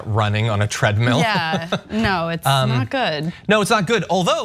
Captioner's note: laugh